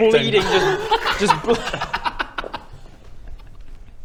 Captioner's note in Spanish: risas